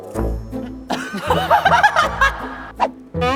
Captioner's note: laughing